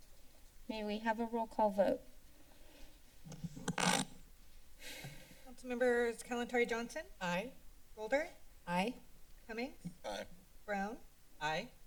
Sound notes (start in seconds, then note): 3.2 mic thump; 4.8 inhales